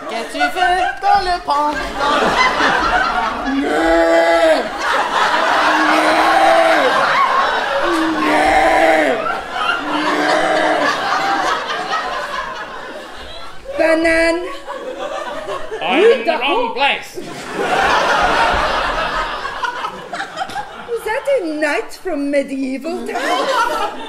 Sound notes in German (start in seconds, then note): 3.6 unspezifische Tierlaute